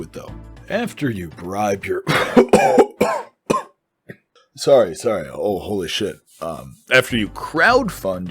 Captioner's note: coughing